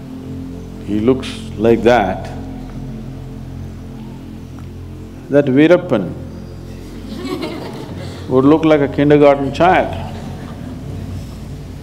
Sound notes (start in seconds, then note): 6.9 laughter